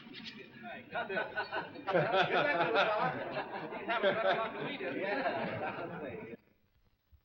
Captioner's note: laughter & chatter